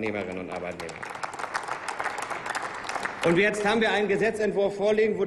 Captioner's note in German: Applaus